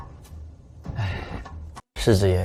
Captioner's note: sighs